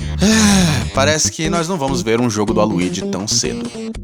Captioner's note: sigh